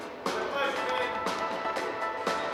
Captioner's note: shouting